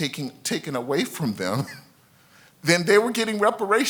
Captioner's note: laughs slightly